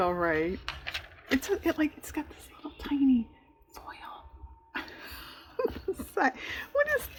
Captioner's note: laughs